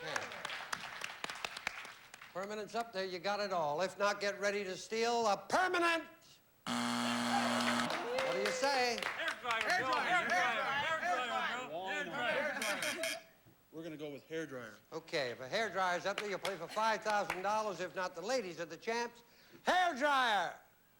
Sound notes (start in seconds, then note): 6.6 buzzer